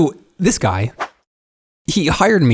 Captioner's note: picture swooshes in